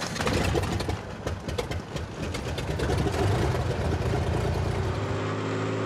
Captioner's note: plane engine droning